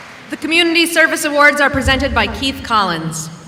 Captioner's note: none